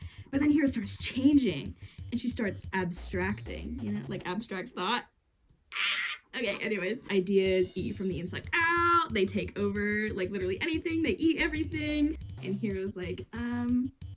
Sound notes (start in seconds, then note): 5.7 pterodactyl Noises